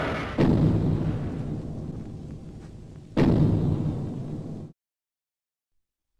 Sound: loud footsteps

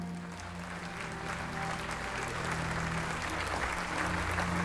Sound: audience applauds

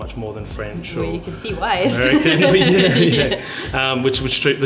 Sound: laughs

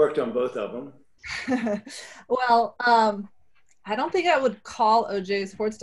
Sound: laughs

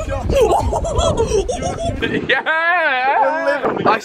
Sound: laughing

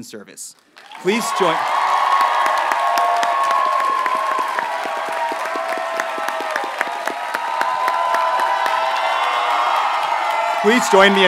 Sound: audience cheers and applauds

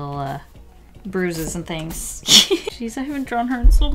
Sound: laughs

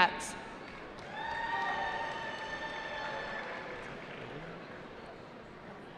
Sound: cheering

